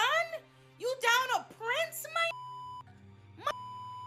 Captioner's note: beep